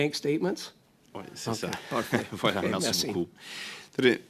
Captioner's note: speaking French